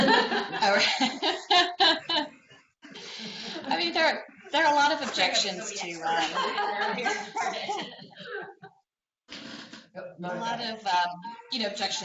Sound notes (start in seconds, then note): 0.0 laughter; 5.1 laughter